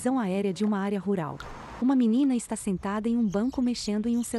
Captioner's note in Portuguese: Pássaros